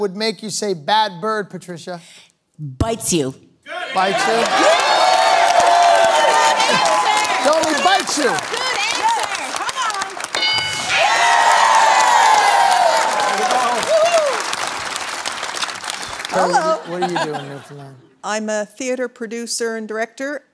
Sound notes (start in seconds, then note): 3.5 cheering; 10.3 bell dings; 11.1 cheering